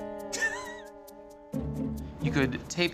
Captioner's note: laughing